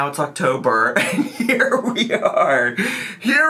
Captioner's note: laughs